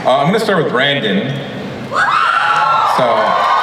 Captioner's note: audience cheers and applauds